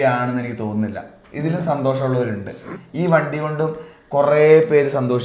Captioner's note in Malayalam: ചീറ്റുന്നു